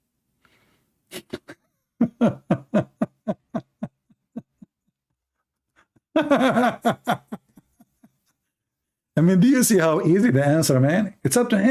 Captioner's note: Ketawa